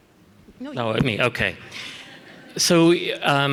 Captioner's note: audience laughs